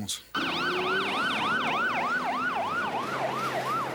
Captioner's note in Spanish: Sirenes tocando